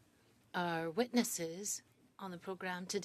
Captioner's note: speaking French